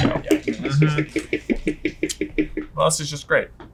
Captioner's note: marker tapping